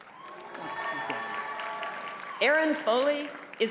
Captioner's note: audience cheers and applauds